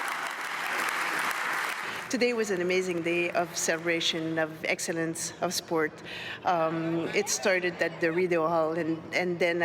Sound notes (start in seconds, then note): 2.7 cheers and applause